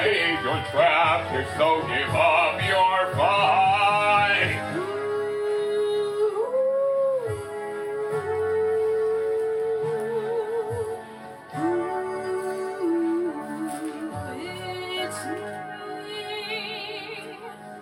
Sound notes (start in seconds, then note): none